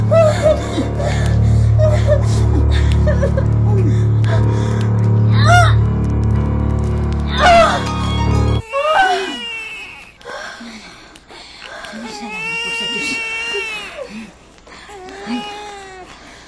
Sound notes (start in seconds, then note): 1.7 sobs; 8.6 baby crying; 8.6 sighs; 12.0 baby crying